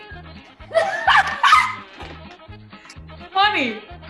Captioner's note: laughing